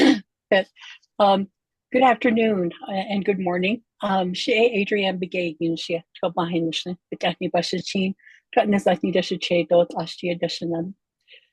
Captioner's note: introduces herself in Navajo